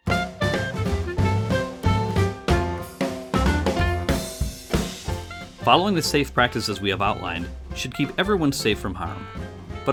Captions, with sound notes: (upbeat jazz music) - [Voiceover] Following the safe practices we have outlined, should keep everyone safe from harm.